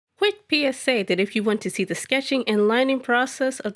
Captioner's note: voice-over